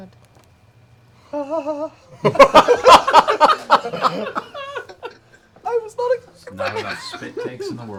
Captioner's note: excited gasp